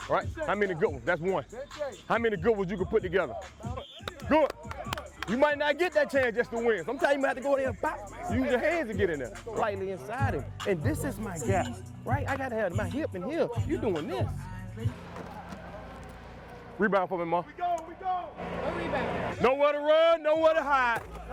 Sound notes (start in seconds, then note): 4.0 clapping